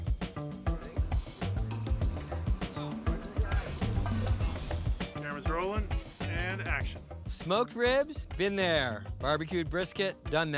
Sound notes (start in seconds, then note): 2.2 background chatter